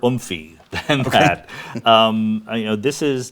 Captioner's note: laughs